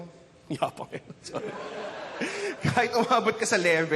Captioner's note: chuckles; audience laughs